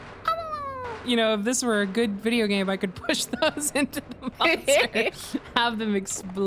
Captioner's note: laughs